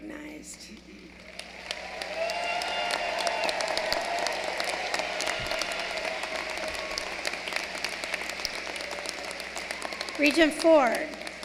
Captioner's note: applause